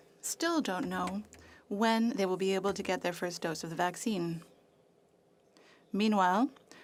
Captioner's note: speaking French